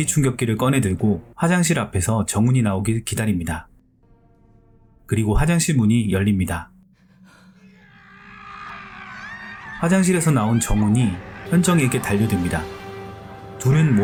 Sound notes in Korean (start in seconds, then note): 7.3 비명